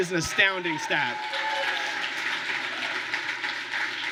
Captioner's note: applause